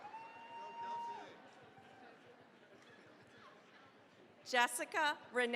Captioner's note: cheering, applause